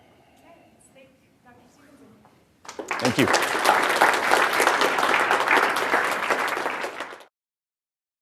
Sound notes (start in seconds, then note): 2.6 applause